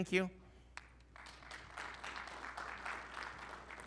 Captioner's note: audience applauding